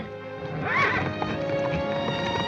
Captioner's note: horse whinnies